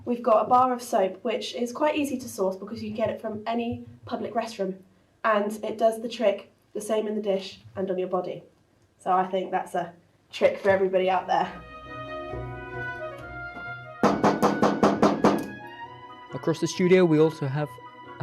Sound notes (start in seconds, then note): 11.5 classical music; 14.0 knocking